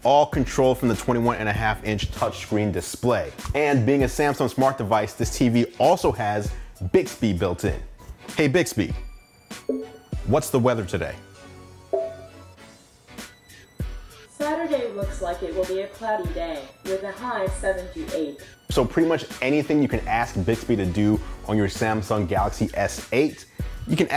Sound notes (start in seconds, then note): 11.9 bell dings